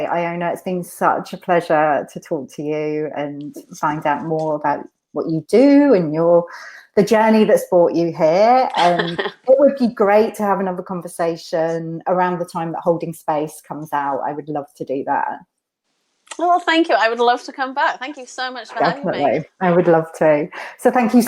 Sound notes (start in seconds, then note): 8.7 laughs